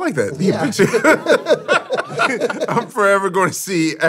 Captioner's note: laughs